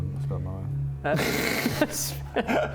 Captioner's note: rebellious laugh